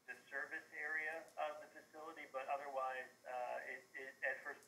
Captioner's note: via phone